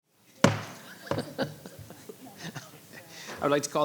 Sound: gavel pounding; laughing

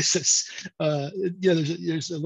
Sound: laughs

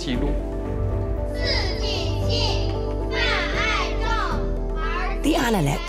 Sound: young children reciting text in Chinese

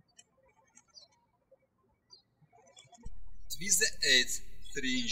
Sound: birds chirping

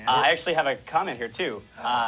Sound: none

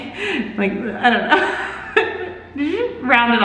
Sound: laughs

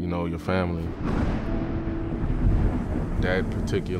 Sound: thunder crashing

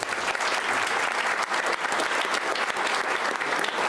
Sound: applauding

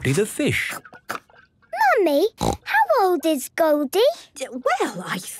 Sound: snorting

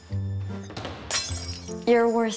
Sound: crash

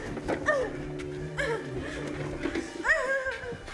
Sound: woman crying

